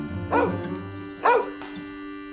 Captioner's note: barking